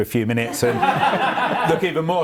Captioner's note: laughs